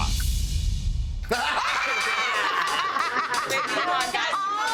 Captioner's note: everyone laughing